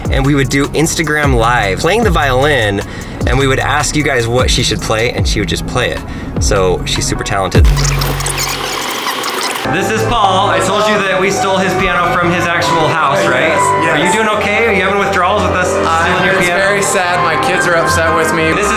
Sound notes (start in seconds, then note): 7.6 tape rewinding; 13.9 piano music in background